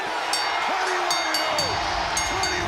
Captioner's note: bell ringing